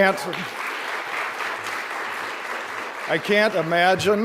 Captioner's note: applause